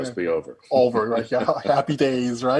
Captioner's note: Joe chuckling